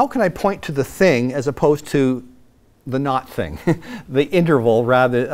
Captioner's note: laughs